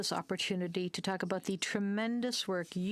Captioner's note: speaking French